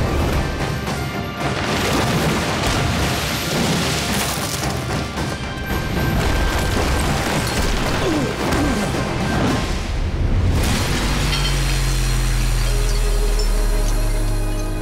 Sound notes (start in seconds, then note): 7.4 grunting; 11.1 shattering